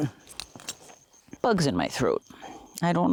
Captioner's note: coughing